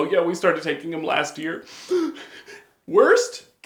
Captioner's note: begins sobbing